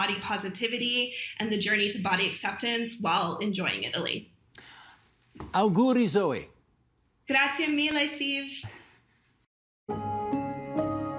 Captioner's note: speaking in italian